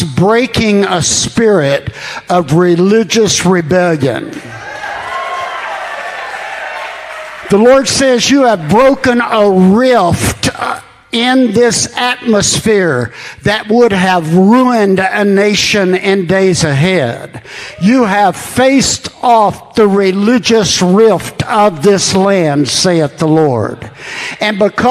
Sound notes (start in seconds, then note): 5.9 congregation affirming